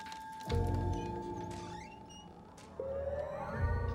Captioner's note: door squeaks